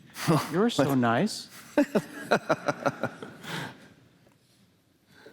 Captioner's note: laughing